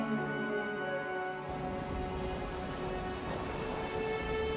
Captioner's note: waves crashing